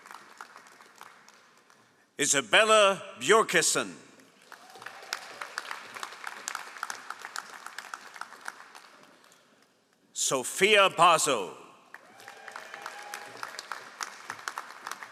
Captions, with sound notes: Isabella Björkeson. (all applauding) Sophia Paso. (all applauding)